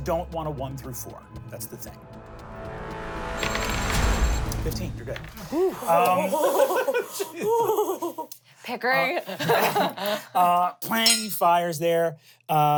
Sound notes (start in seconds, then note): 5.4 everyone sighs; 10.0 laughs